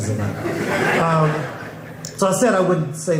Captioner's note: crowd laughing